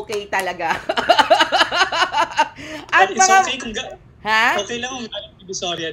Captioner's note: laughter